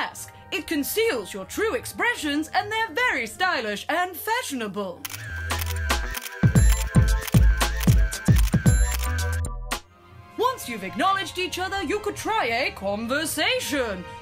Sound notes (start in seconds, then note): 5.0 camera takes snapshots